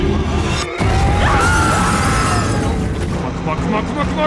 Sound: bystander screaming

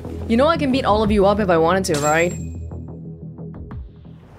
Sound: none

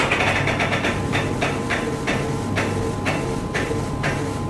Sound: printer sounds

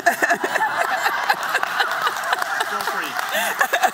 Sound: applause

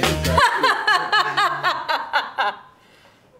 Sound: bee laughing

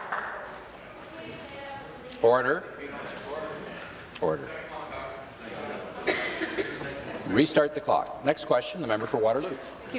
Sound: applause

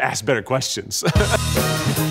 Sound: laughing; upbeat music

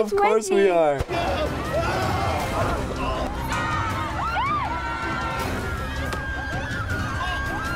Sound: students screaming

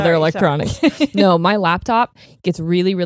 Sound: laughs

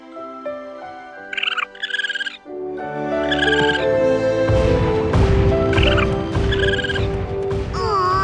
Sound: chirping

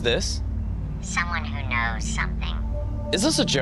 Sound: phone distorted voice

